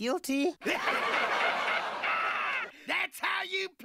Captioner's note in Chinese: 哄堂大笑